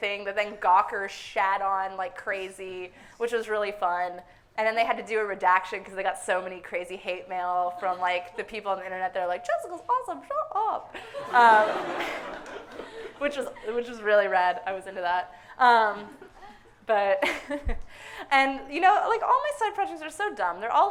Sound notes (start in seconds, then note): 11.0 audience laughing; 15.9 laughs